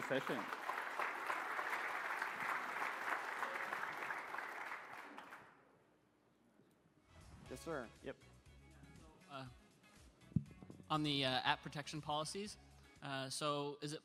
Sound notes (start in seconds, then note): 4.1 applause